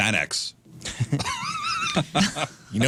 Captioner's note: laughter